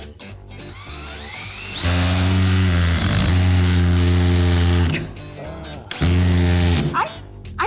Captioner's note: drilling